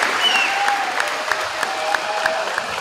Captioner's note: crowd cheering